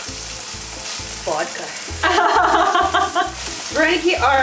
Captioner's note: laughter